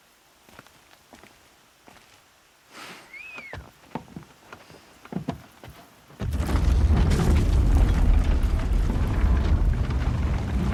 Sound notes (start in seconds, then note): 3.1 returned whistle from outside